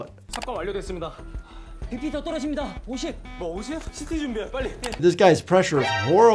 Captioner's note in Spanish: hablando idioma extranjero